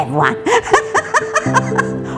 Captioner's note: laughs